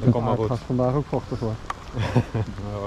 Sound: rain

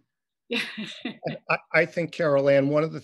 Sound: laughs

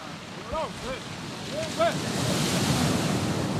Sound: men yelling

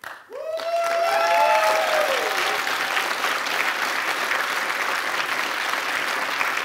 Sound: applause; cheering

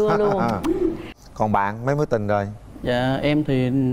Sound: laughing

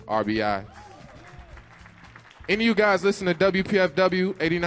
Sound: audience applauds

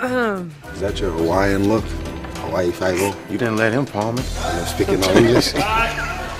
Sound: laughter

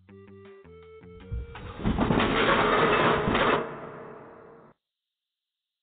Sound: crash

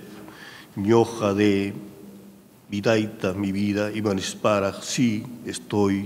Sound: speaking in a foreign language

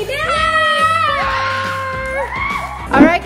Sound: children cheer

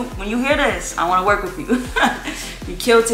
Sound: laughs

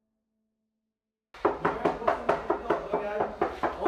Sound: Basil knocks at the door

